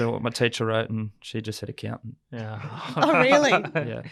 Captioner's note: group laughs